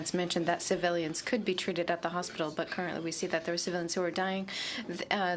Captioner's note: speaking in french